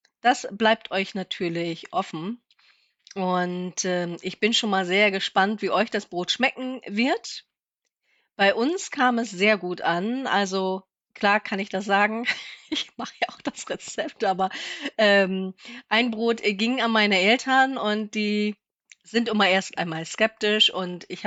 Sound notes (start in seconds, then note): 14.2 laughter